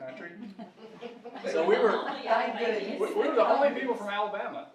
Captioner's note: audience mumbling